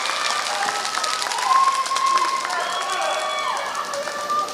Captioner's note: applause